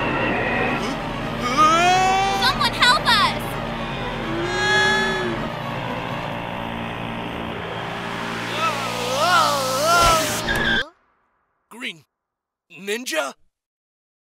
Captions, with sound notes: - Wh-? Whooaa! - Someone help us! [Mooing and yelling] [Yelling stops] Green ...Ninja?